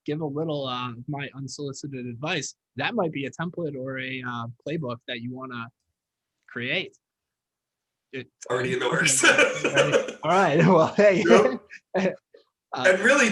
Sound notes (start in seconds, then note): 8.8 laughing